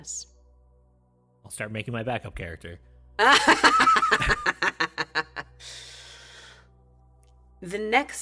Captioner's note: laughs